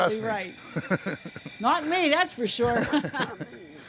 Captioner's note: laughing